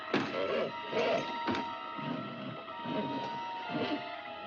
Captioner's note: banging; horse grunts nervously; suspenseful music